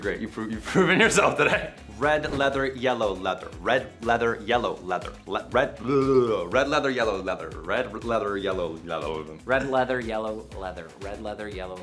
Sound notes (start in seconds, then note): 5.7 tongue flaps